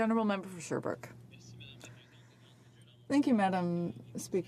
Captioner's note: speaking French